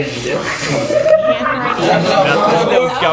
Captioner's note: laughs